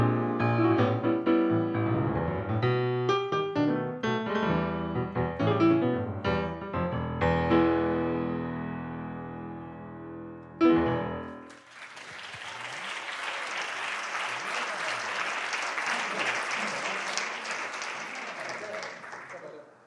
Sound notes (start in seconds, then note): 11.0 applause